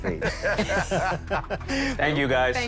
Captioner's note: Sharks Laughing